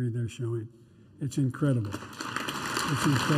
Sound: applause

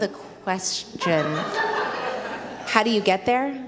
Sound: audience laughs

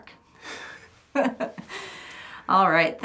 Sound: laughing

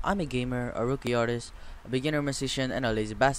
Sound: breathes

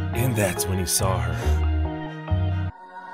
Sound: gasps

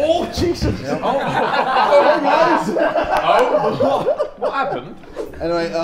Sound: Sidemen laughing

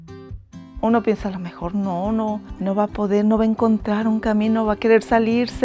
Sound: upbeat music; speaking in foreign language

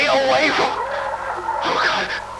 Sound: H̷̘͠o̷͈͂b̷̠̀ẉ̷͑ą̶́p̴͉̽t̸̥̋q̴̺̔ calls out in the distance

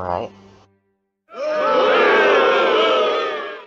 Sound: audience Boos

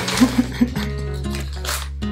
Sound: chuckles

